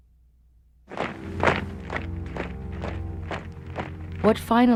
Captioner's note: audible marching